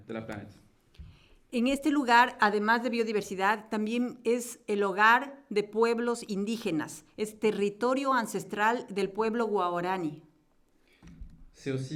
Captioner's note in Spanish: Español